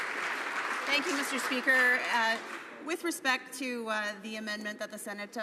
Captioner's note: some Applause